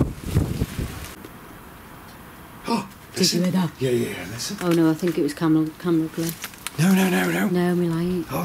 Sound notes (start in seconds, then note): 2.5 gasps